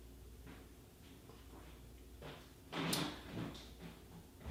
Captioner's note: loud footsteps